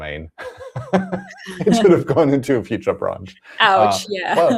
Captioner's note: laughs